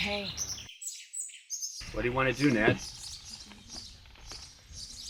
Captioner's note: birds chirp